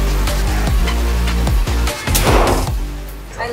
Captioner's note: gun firing